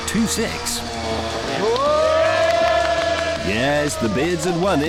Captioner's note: cheering